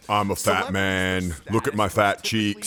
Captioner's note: voiceover